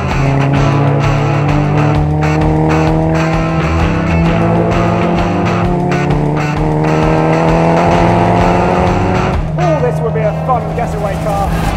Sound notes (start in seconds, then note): 0.0 upbeat rock music; 2.8 engine revving; 5.4 upbeat rock music continues